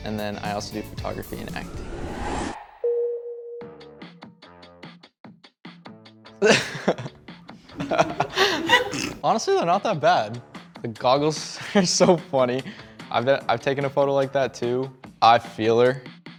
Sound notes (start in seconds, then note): 2.8 tone chimes; 6.4 laughing